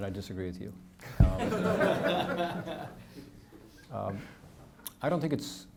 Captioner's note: audience laughing